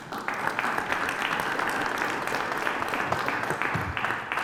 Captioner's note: applause